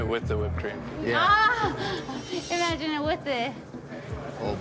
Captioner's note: laughs